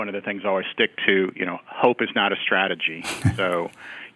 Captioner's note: laughs